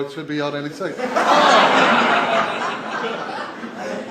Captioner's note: laughter